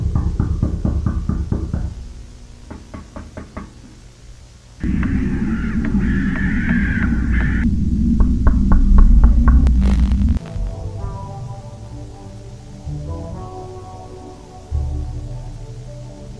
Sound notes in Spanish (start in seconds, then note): 0.1 Toc Toc Toc Toc Toc Toc Toc Toc Toc; 8.1 toc Toc Toc